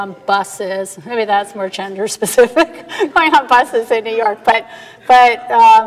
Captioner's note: laughing